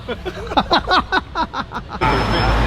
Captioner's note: laughs